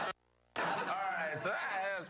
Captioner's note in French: laughter